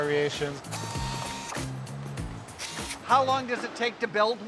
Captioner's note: tool whirring